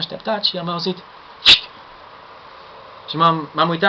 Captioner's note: fshik!